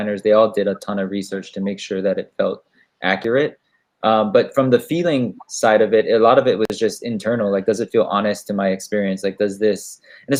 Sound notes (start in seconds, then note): none